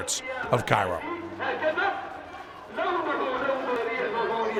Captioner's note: non-english speech